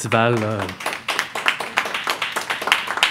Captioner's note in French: applaudissements